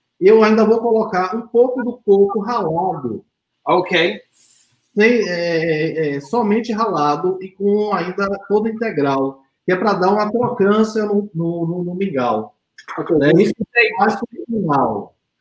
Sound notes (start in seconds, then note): 0.2 speaks portuguese; 4.9 speaks portuguese